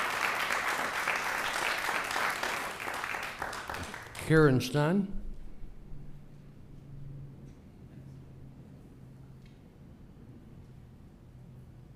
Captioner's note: applause